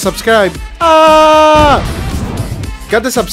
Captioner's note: explosion